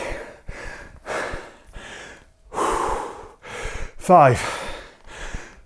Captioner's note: breathes heavily